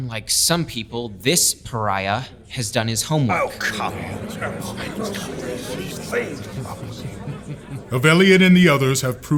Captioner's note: more grumbling, giggling